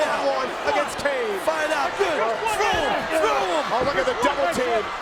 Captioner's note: overlapping chatter